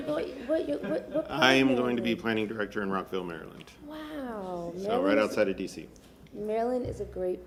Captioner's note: laughter